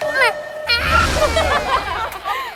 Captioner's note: waaaah